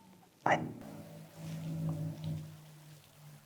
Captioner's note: boat approaching